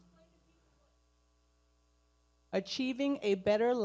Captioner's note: person speaking away from mic